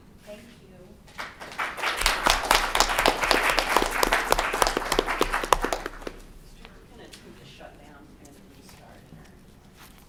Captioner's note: clapping